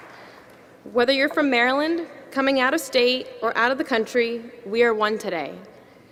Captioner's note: applause